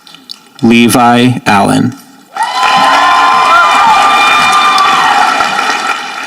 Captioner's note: audience applauding